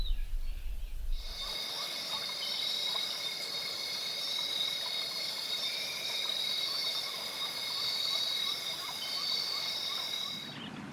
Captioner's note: birds chirping